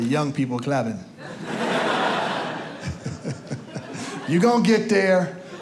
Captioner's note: audience laughs